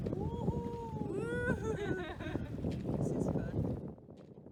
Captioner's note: laughter